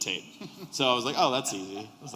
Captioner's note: laughter